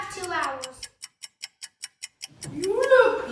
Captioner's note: timer ticking